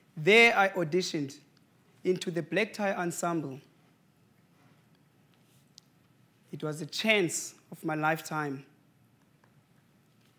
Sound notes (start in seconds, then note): none